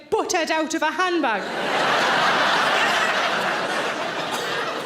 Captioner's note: audience laughing